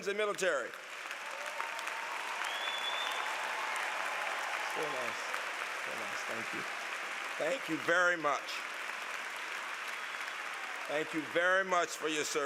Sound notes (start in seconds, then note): 1.4 applause